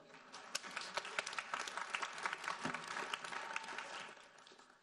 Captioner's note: audience applauding